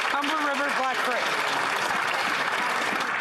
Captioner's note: some Applause